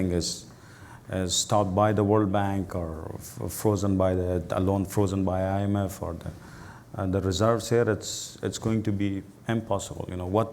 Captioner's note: voice low